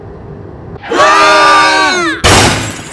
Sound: Benny, Dutch, Garcia, and Rock scream; car crashes

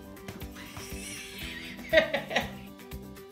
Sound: laughter

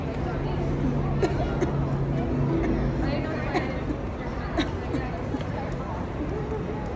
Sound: coughing

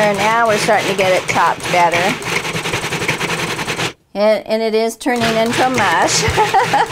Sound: laughs

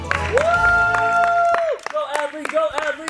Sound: cheering; clapping

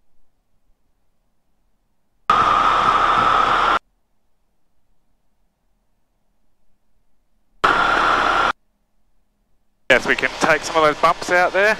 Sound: plane engine roaring

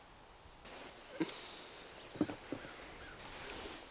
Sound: sighs

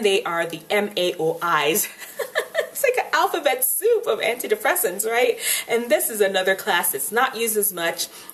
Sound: laughs

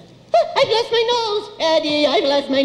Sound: gasps

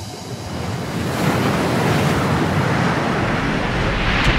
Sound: water splashing

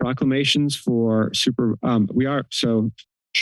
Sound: clears throat

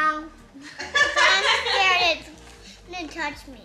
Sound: laughing

